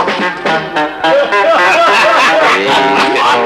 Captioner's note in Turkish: Kahkahalar